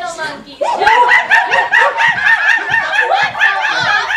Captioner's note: monkey noises